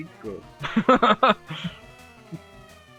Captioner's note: laughter